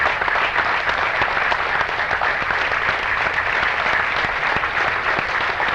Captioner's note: applause